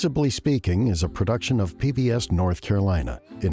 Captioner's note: voiceover